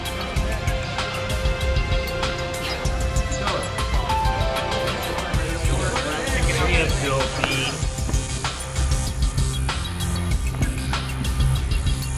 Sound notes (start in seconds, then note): 5.2 chattering; 8.3 intense instrumental music